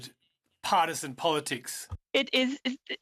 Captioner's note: speaking in French